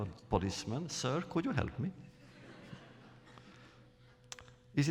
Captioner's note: laughter